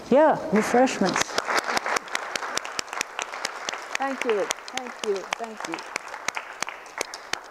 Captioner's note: audience applause